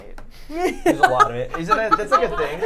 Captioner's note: laughs